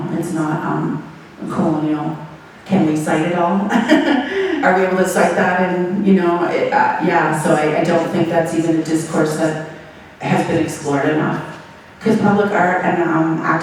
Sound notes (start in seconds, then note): 3.6 laughing